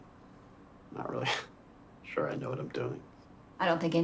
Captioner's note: laughs